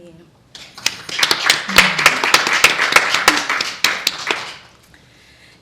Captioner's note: audience applauding